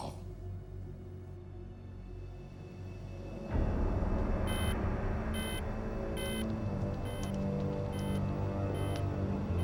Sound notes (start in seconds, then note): 3.3 dramatic music; 3.4 electronic beeping